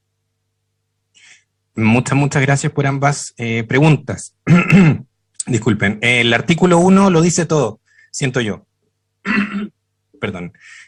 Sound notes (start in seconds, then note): 5.0 coughs; 9.2 coughs - throat was killing me